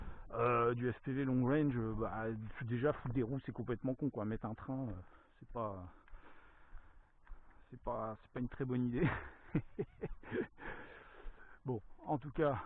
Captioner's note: laughs